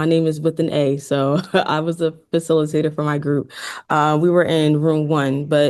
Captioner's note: chuckles